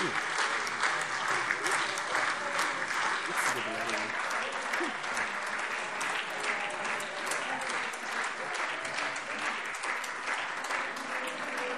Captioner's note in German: Beifall SPD, AfD, Freie Demokraten und DIE LINKE